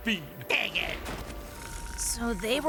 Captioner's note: all snoring